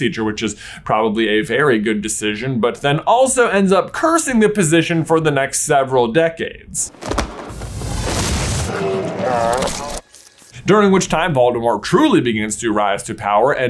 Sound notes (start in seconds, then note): 6.9 student thuds; 7.2 air whooshing; 8.6 werewolf groaning